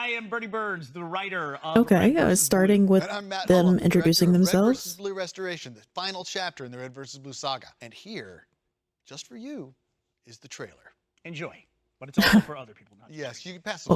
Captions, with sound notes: Okay, starting with them introducing themselves. (laughs)